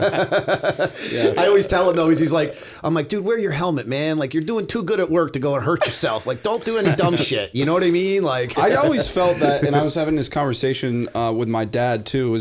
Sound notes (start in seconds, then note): 0.0 laughter; 7.7 chuckle